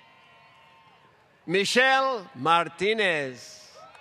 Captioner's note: applause